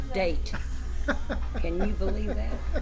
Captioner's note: laughs